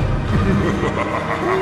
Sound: laughter

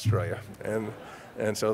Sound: audience laugh

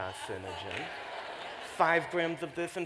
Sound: laughter

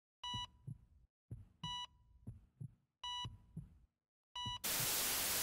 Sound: heart rate monitor beeping

